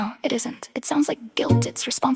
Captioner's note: female voice 1; female voice 1